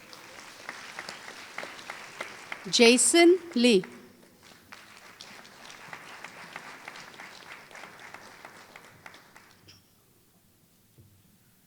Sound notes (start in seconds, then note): 6.4 applause